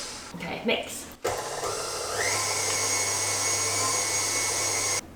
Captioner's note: mixer whirring